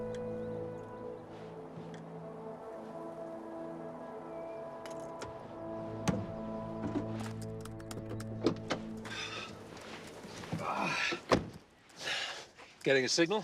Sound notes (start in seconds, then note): 2.8 bell; 7.9 door open close